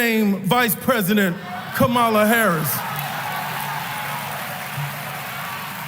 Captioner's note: applause